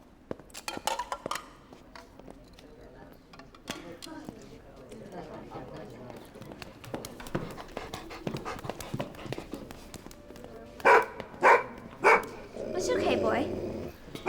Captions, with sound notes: (dog barking) - It's okay boy.